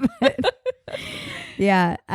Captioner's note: laughing